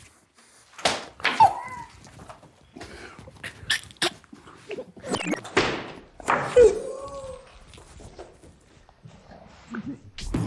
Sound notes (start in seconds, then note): 0.7 group gasps; 2.1 group quietly laughing; 3.6 gagging; 5.6 group gasps; 10.3 group quietly laughing